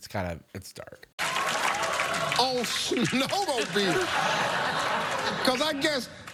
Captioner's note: crowd laughing and clapping